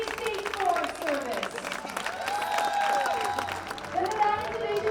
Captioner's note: applause continues